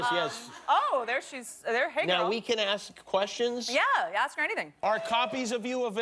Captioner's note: laughter